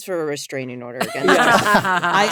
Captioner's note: all laughing